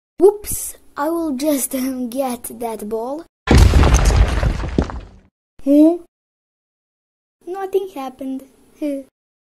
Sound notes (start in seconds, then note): 3.4 wall destroying sound